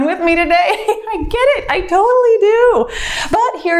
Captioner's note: laughs